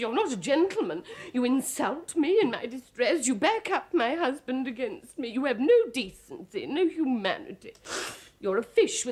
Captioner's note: blows her nose